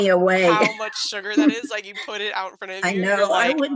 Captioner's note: laughs